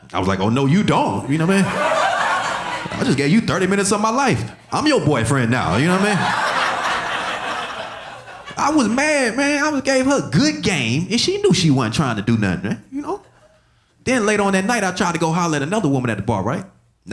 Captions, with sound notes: I was like, "Oh, no, you don't. "I just gave you 30 minutes of my life, "I'm your boyfriend now." You know what I mean? (audience laughing) I was mad, man. I gave her good game, and she knew she wasn't trying to do nothing, you know? Then later on that night, I tried to go holler at another woman at the bar, right,